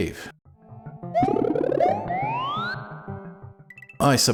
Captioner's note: cartoon Balloon Sounds